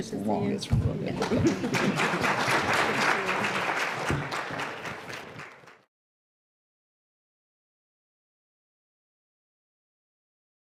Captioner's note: applause